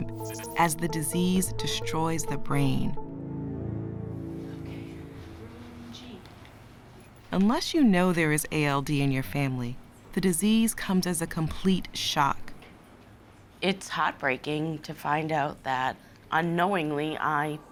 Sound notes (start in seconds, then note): none